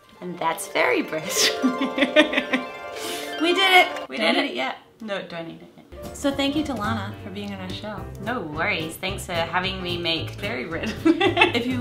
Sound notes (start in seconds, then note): 0.0 harp music; 1.6 laughs; 11.1 laughs